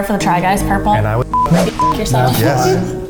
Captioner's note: beep